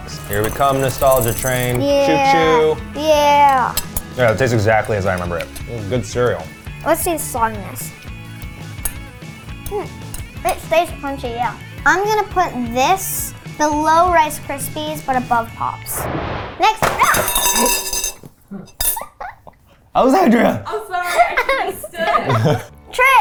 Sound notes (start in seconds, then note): 15.9 animated explosion booming; 16.8 cereal box thudding; 17.0 spoon clatters; 19.0 laughs